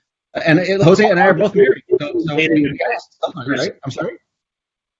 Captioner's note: Jose's mic warbles